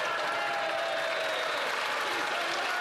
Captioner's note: some Applause